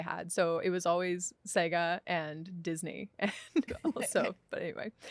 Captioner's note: laughs